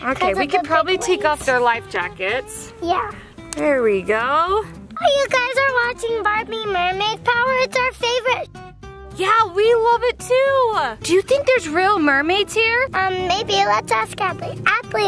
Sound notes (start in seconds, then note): 4.6 lifejacket snapping